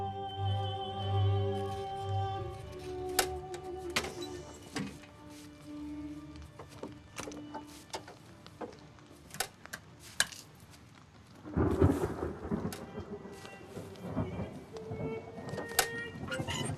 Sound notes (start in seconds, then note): 3.9 objects clattering; 11.4 thunder rumbling